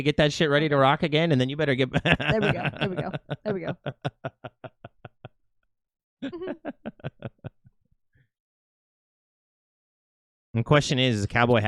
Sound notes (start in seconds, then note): 6.2 laughing